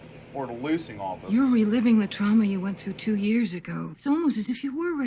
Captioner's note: on TV